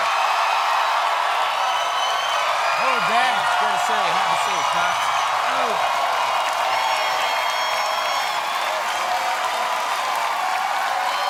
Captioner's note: cheers and applause